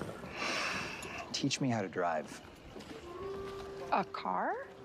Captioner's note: sighs